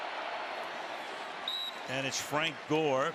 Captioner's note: whistle